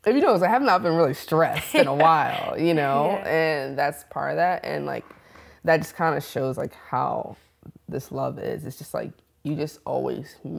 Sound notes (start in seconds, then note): 1.5 laughs